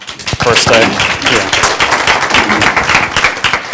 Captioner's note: class applauding